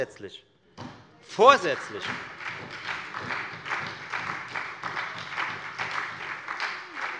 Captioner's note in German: Beifall bei der FDP und der SPD - Widerspruch bei der CDU